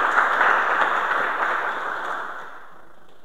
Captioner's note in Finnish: suosionosoitukset